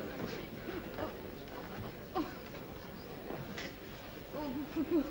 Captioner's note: annoyed chatter; whimpers